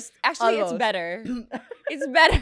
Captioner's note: laughs